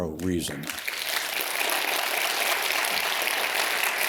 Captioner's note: audience claps